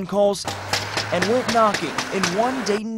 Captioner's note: sound of door knock